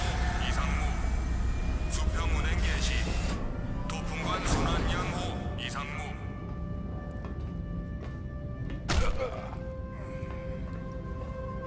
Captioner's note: non-english speech